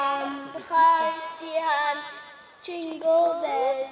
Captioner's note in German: übers Mikrofon